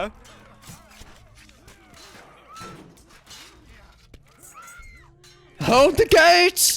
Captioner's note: murder Noises